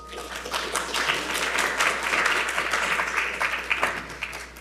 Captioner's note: audience applauding